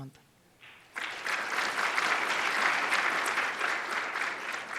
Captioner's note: cheers and applause